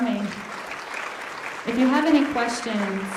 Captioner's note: audience applauding